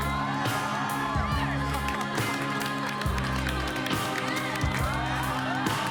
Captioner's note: cheers and applause